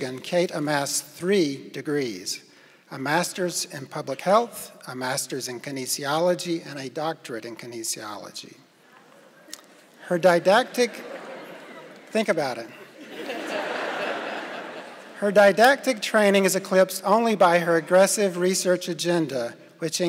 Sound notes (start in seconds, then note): 14.0 laughing